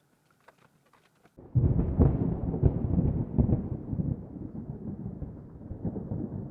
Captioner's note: wind blowing